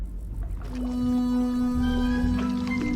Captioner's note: fudge splorching; whimsical music plays